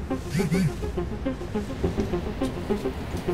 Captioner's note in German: Handy vibriert stark